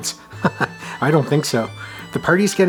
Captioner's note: chuckles